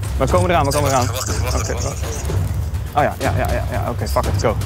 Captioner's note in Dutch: via microfoon